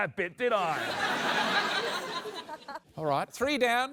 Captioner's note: laughter